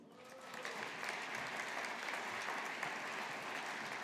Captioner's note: audience applauding